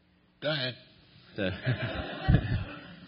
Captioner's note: laughter